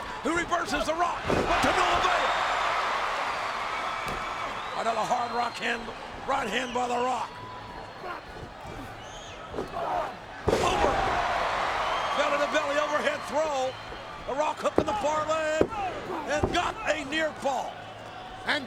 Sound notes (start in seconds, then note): 3.1 crowd cheering; 10.3 wrestlers thud